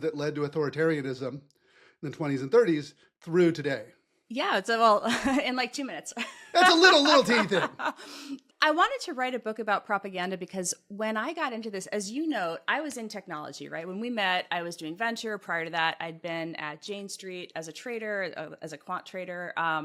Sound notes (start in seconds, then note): 6.5 laugh